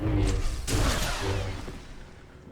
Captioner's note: gunfire